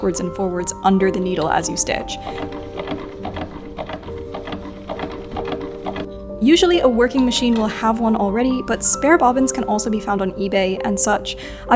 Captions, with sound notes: backwards and forwards under the needle as you stitch. (machine clunking) Usually a working machine will have one already, (bobbin clacks) but spare bobbins can also be found on eBay and such.